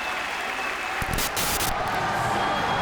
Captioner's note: static hissing